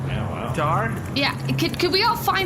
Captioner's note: calling out